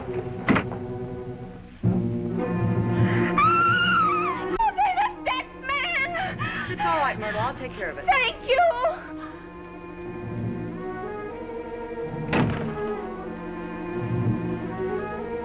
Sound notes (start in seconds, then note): 3.2 screaming